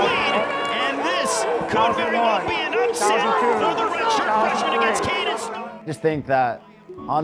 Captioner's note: crowd cheering